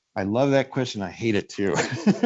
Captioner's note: laughs